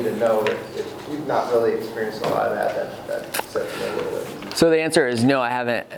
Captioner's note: murmurs